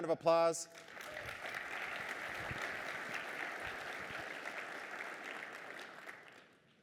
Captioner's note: applause